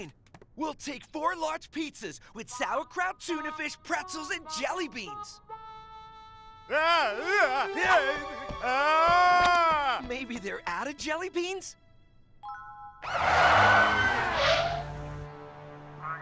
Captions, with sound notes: We'll take four large pizzas with sauerkraut, tuna fish, pretzels and jelly beans. [screaming] Maybe they're out of jelly beans? [sirens blaring]